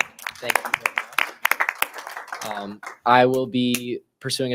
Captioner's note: members applauding